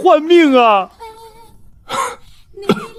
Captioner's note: coughs